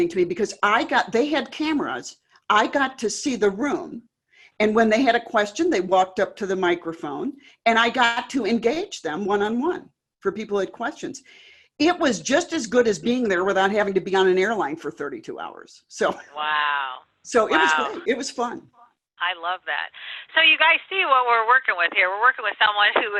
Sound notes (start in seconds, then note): 16.1 chuckles